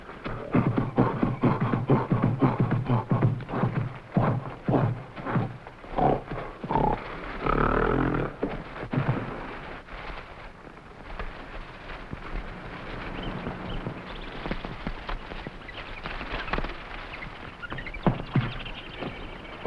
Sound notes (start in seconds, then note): 0.1 gorilla grunting; 7.6 plants rustling; 12.9 animals chattering; 13.4 gorillas groaning